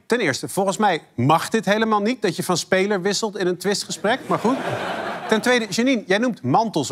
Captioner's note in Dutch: gelach